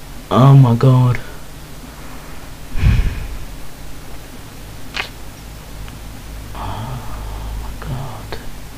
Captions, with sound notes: Oh my god. [sigh] Ohhhhh my god...